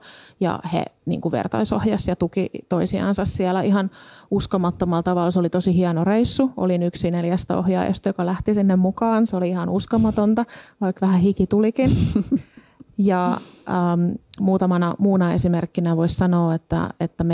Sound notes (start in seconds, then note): 11.8 laughter